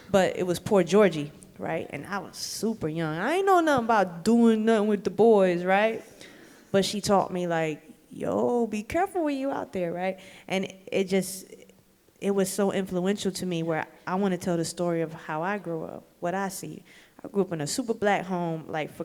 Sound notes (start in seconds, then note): none